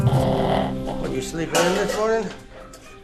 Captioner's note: dog grumbling